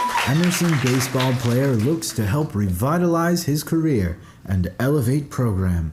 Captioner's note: applause